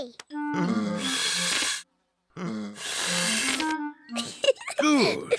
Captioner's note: blowing deeply; giggles